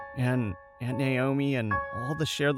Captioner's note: none